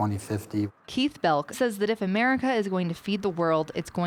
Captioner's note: voiceover